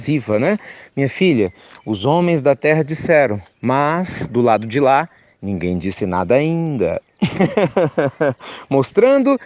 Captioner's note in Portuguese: Risos